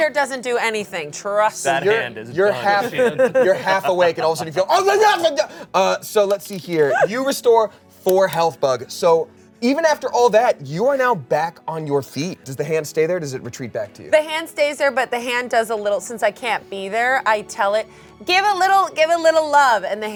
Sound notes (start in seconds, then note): 1.8 laughs; 6.8 exclaims